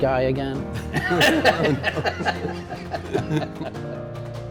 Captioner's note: both laughing